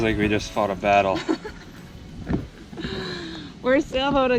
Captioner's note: laughs